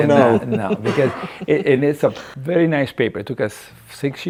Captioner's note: laughing